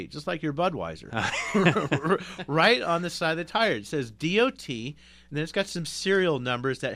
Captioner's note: both laugh